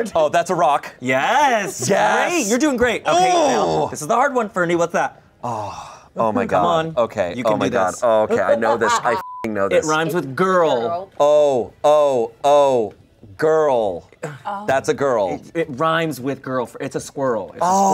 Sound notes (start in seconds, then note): 9.2 beep